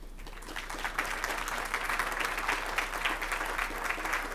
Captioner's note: crowd applauding